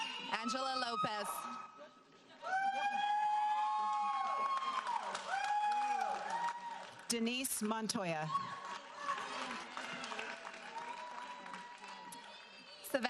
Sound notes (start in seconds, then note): 2.9 audience applauding